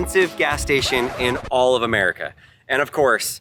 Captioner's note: record scratching